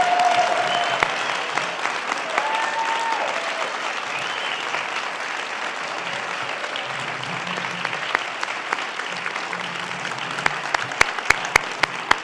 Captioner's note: applause